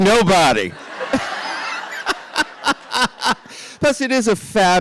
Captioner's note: RuPaul laughs